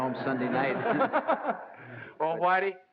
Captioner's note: laugh